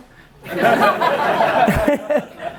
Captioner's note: laughter